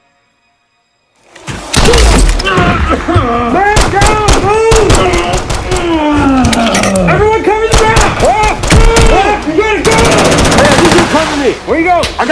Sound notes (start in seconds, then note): 1.6 armor plate shatters; 2.4 groaning in pain; 5.6 groaning in pain; 6.4 empty mag rattles